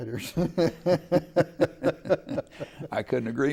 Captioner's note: laughing